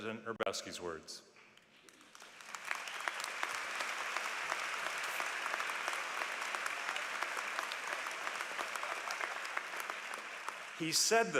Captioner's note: applause